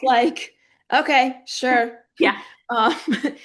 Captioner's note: laughing